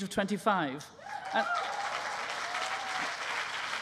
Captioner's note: applause